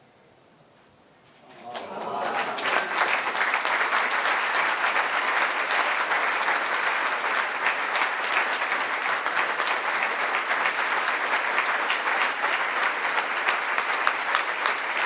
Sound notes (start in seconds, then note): 1.4 applause